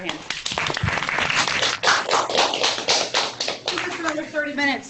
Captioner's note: applauding